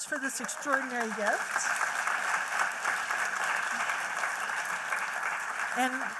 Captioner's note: applause